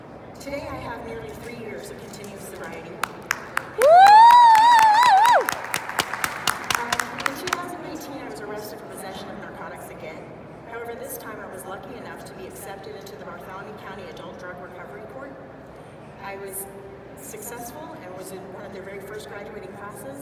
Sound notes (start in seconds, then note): 3.9 loud clapping